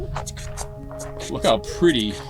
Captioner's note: beatboxing